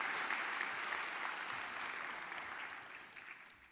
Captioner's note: applause